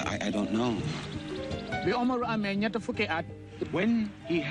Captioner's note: foreign language